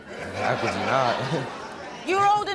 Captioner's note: audience laughing